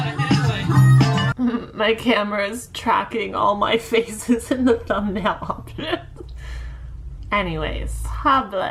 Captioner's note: laughs